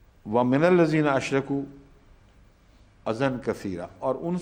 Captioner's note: Arabic